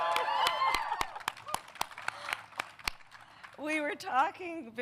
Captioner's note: applause